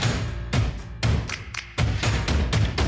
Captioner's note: air swish; lively music